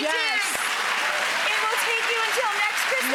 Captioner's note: applause